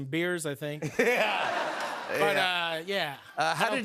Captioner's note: laughter